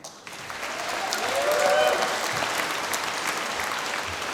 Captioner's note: applause